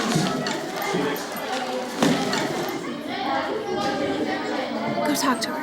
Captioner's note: incoherent student chatter